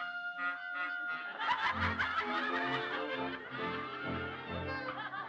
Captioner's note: people laughing